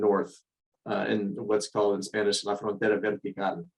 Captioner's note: speaking in foreign language